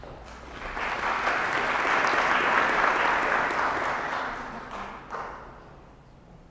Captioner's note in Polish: oklaski